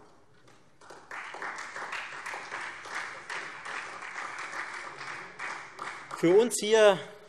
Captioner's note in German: Beifall Freie Demokraten